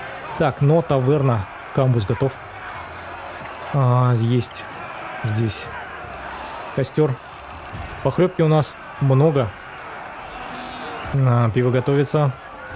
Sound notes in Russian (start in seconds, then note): 8.1 ликование; 11.5 крик